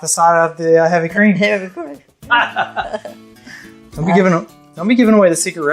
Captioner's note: laughs